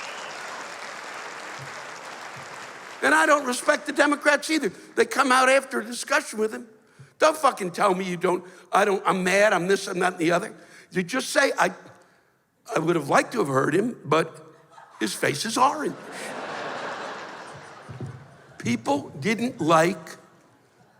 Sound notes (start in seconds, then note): 15.8 laughter